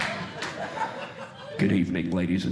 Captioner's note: audience Laughing